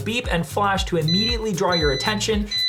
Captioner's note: alarm beeping